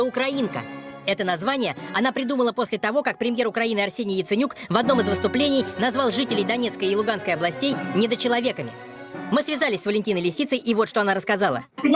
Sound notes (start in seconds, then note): 3.3 Ukrainian